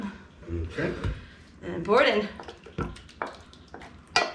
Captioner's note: mixture splattering into dish